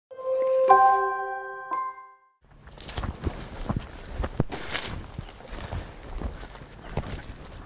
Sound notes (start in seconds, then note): 0.1 chime; 2.5 footsteps through the brush